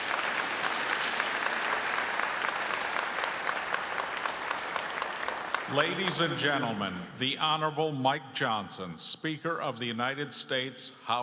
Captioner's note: applause